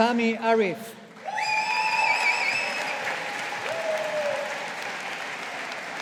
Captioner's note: audience applauding